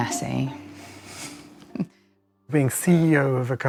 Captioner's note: laughs